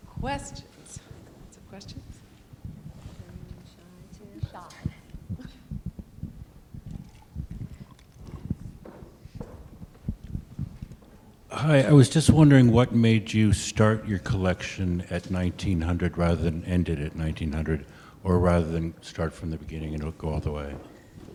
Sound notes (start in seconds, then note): 11.5 voiceover